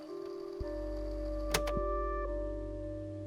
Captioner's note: click